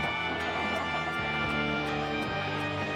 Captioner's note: sobbing